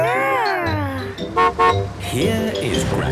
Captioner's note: horn honking